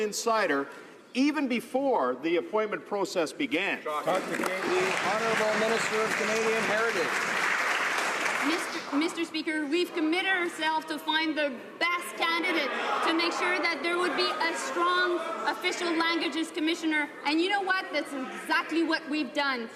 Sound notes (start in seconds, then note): 7.7 some Applause